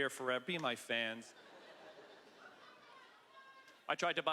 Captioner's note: woman screaming indistinctly